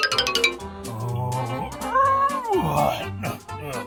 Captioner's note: grunts